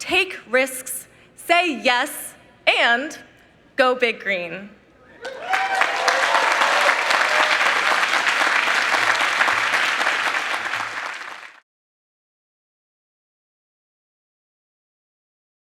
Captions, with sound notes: Take risks, say "yes, and..." go Big Green. (members cheering and applauding)